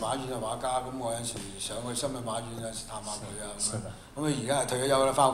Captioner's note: Mandarin; Cantonese